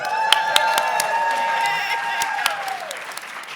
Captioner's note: clapping